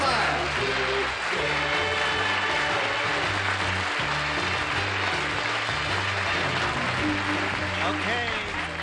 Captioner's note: applause